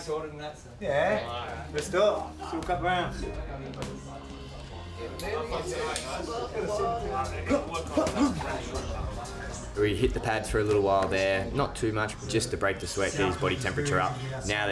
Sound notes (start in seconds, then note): 7.8 Alexander grunting